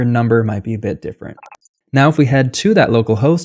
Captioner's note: beep